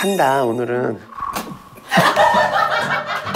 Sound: laughing

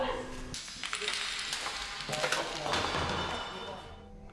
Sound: glass bouncing

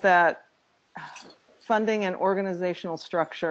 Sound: sighs

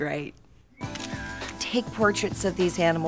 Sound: camera clicks

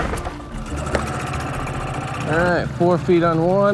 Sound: engine puttering

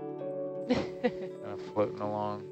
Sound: woman laughs

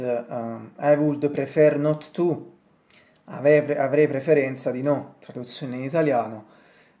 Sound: in Italian

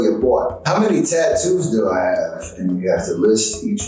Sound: none

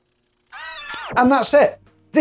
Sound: screams

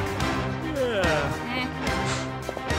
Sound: yawning

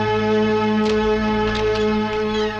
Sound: door Opens

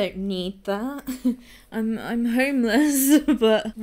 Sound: uneasy laughter

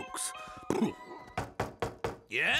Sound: knocking

